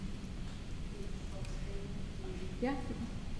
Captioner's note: woman muttering